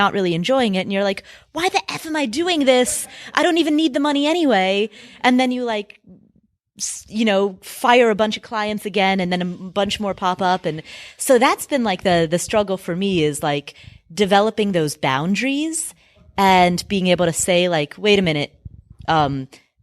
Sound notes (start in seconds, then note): none